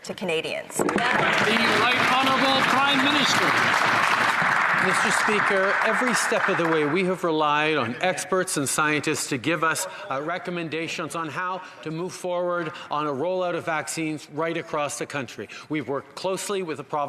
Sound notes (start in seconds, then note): 4.2 some Applause